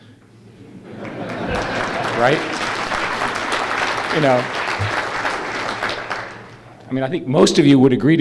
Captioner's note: applause